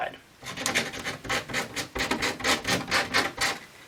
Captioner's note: scraping